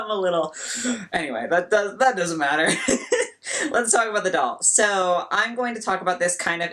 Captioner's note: heavy breathing